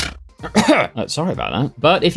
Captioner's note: cough